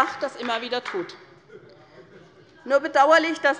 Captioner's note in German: Beifall bei der SPD